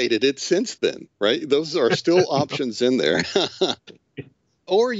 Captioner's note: laughing